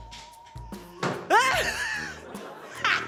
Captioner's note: yelps; laughs